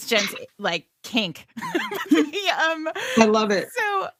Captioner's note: laughing